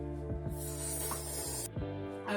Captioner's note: slurp